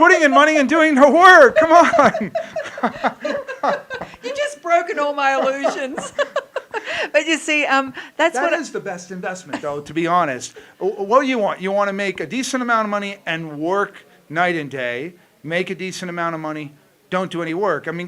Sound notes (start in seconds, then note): 2.6 laughing